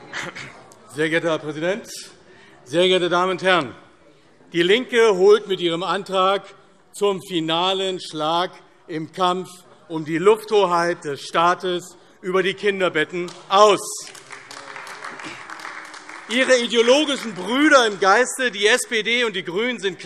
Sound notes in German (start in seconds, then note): 13.2 Beifall AfD